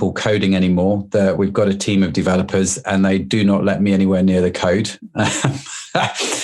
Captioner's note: laughs